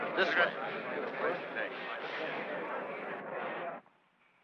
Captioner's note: all chattering